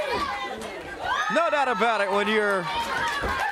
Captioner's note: crowd cheering